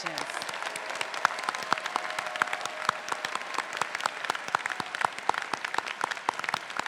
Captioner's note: faculty, graduates, and audience applauding